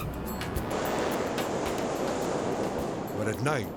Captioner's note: tires skidding; tense music; jet roaring